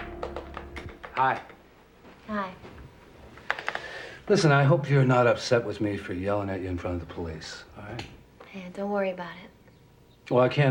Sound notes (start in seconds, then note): 2.0 keyboard clacking